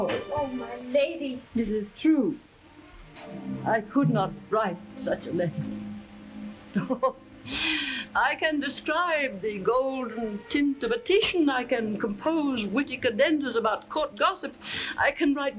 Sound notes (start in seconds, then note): 6.7 Marquesa chuckles